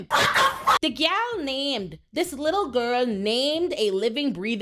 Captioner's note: dog barking